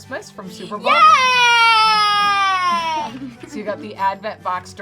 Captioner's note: cheering